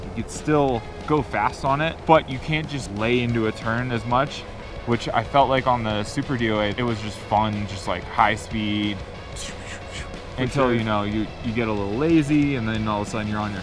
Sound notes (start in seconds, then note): 8.9 swooshing